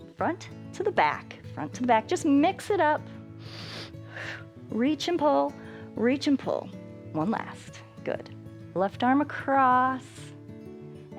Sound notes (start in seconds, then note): 3.1 inhales and exhales